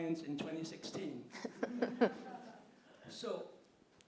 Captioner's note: laughing